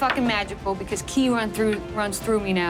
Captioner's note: dice rolling